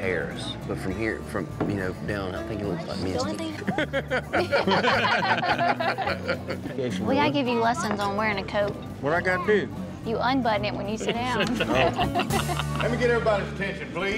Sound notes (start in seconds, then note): 3.5 laughter